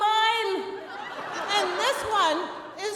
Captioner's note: audience laughing